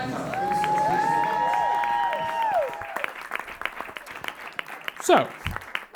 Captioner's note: audience cheers